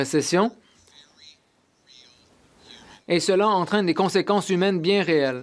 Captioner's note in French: voix de l'interprète